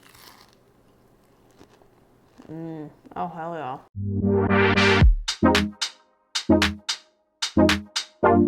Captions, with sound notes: - (loud crunching) Mmm, oh hell yeah. (upbeat music)